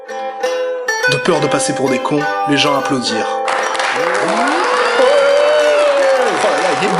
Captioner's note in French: hourras